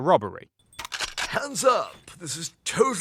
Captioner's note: Snake cocks shotgun